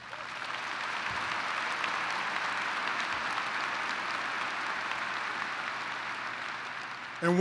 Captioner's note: applause